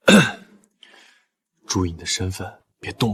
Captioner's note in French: Tousse